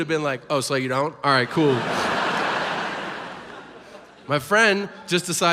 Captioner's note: audience laughs